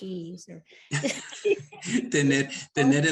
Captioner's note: both laugh; speaking Spanish